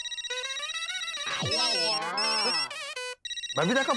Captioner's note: phone ringing